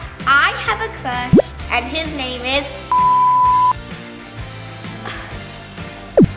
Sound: tone sounds; sigh; tone sounds

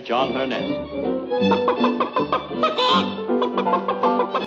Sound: clucks like a chicken

